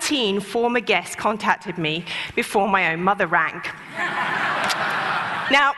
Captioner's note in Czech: Smích